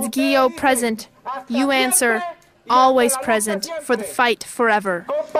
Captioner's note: audio in Spanish